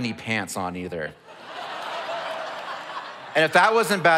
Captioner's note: audience laughs